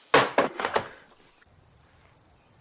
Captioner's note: crash